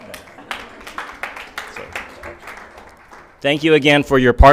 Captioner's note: audience clapping